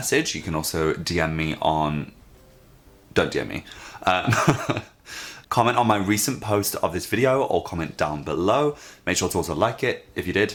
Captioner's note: laughs